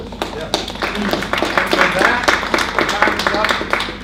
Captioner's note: chuckles; audience applauds